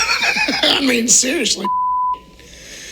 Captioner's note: beep